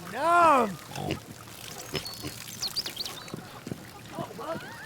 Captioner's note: water splashing; snorts; footfalls lightly thudding